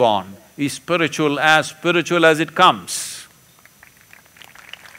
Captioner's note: applause